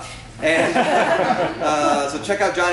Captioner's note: laughter